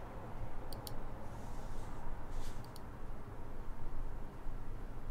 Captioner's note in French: clics de souris